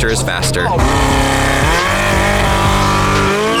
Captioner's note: car engine